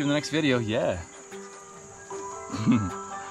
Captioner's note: scoffs